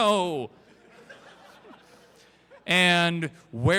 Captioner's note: crowd Laughter